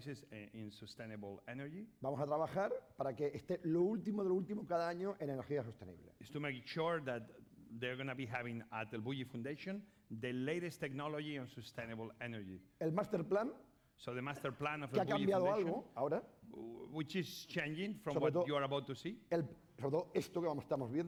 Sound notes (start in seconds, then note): 3.8 speaking spanish; 13.1 speaking spanish; 16.1 speaking spanish; 20.1 speaking spanish